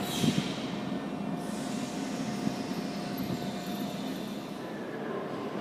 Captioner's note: opening doors